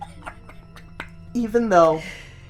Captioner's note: laughs; tries to quiet himself but cannot hold the laughter in